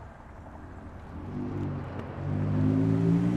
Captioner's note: vehicle approaching